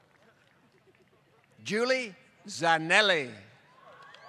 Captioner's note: applause